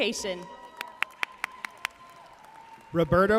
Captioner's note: audience cheering and applauding